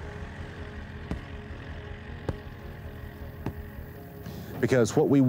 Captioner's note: soft rhythmic thudding